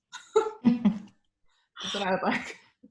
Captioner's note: laughs